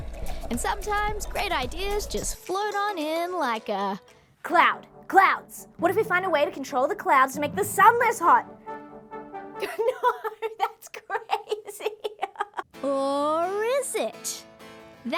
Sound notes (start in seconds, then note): 9.6 laughs